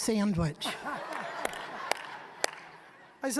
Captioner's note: audience laughing